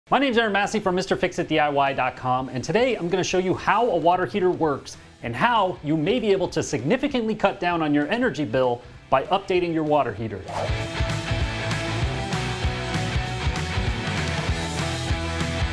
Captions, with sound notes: - My name is Aaron Massey from MRFIXITDIY.com. And today I'm gonna show you how a water heater works, and how you may be able to significantly cut down on your energy bill, by updating your water heater. (air whooshing) (bright upbeat instrumental music)